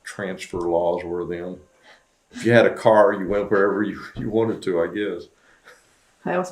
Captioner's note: laughs